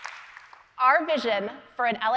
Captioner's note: applause